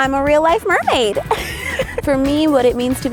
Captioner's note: laughing